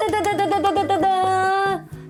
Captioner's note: clap